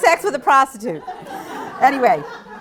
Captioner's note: laugter